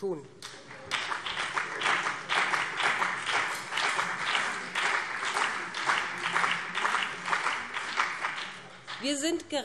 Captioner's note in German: Beifall BÜNDNIS 90/DIE GRÜNEN und CDU